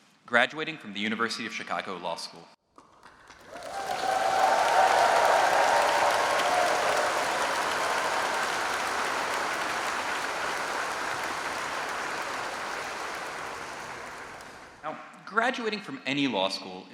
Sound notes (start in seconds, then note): 2.7 applause and cheering